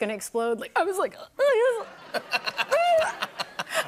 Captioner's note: laughter; sobbing